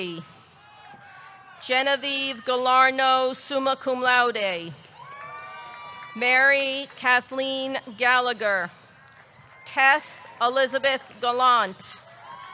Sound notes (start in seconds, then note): 4.8 audience clapping; 4.9 audience cheering